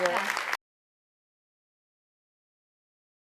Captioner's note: applause